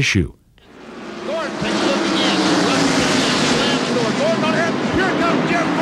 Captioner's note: car engines roaring